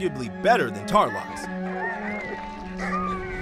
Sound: howling

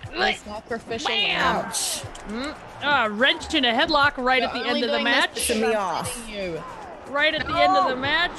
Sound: none

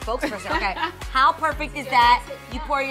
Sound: laughing

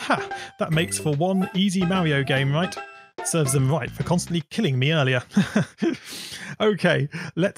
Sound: laughs

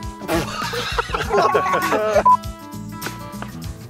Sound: laughs

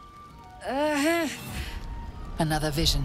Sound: groaning

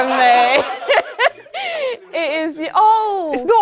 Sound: people laughing

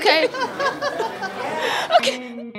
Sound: laughter; instrumental music

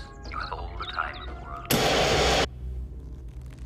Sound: abruptly cuts to loud static

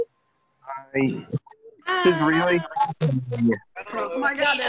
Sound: distorted

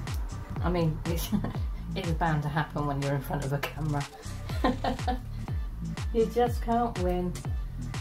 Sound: laughs

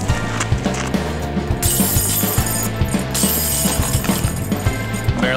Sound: chains Banging

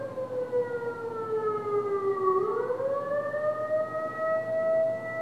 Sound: siren wailing; siren continues wailing

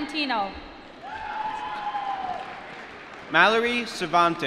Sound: applause

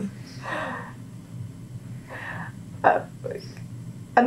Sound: laughter

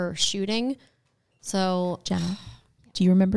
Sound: sighs

